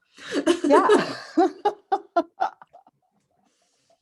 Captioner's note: laughter